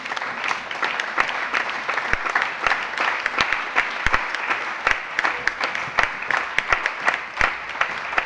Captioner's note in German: Allgemeiner Beifall